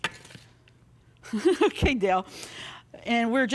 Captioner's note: chuckles